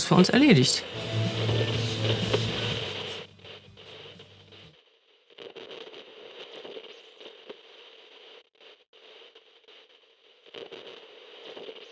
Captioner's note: radio noise